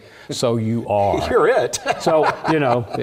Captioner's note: laugh